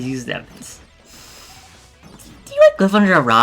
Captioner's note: audible inhale